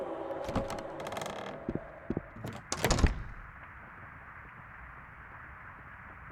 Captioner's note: footsteps, door opens and closes